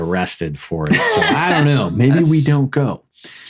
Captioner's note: laughing